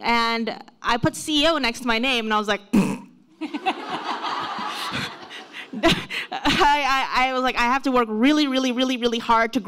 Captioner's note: laughs